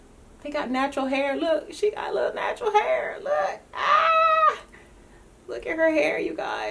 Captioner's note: yells